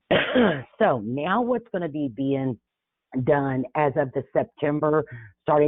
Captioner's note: coughs